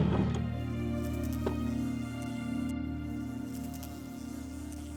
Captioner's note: fly buzzing